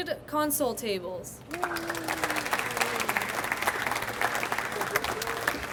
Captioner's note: audience applauds